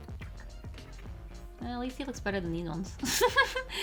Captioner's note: laughs